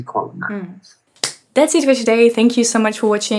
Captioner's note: claps